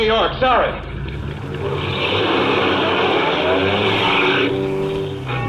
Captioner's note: car drives off, tires squealing